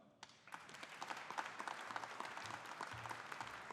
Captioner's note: audience applauding